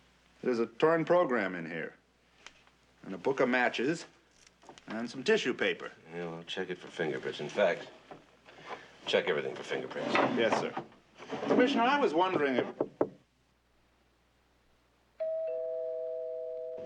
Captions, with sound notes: There's a torn program in here. And a book of matches and some tissue paper. Check it for fingerprints. In fact, check everything for fingerprints. Yes, sir. Commissioner, I was wondering if... [knocking on door] [doorbell ringing]